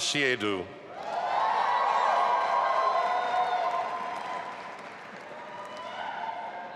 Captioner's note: audience applauding and cheering